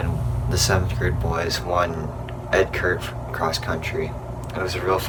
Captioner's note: voice muffled